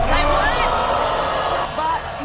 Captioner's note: hollering